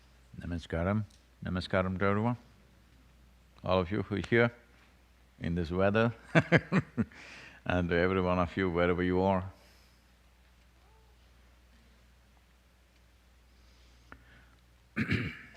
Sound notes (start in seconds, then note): 6.3 laughs